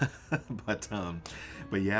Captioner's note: laugh